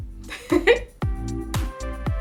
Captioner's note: laughs